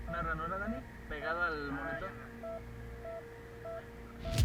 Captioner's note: heart Monitor